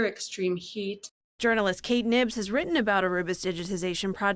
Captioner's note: voice-over